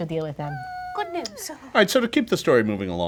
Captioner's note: high-pitched doubtful humming